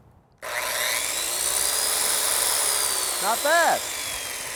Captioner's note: saw buzzes